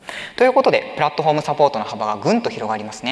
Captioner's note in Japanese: none